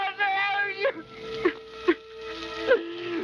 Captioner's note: sobbing